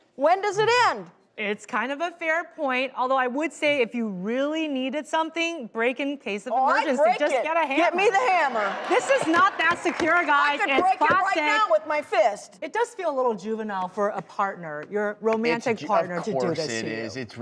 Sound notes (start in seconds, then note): 8.5 applauding